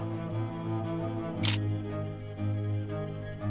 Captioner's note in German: Klicken; Streichmusik